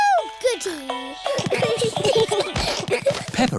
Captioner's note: all giggling